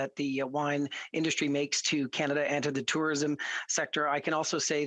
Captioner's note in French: voix de l'interprète